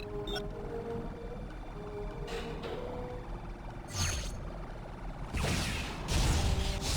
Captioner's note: beeping; explosion